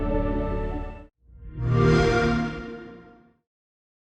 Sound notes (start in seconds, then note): 1.6 xbox sound